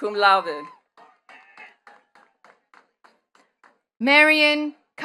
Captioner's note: attendees clapping